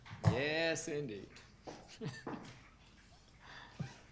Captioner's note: laughs